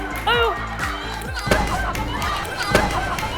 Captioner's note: stomp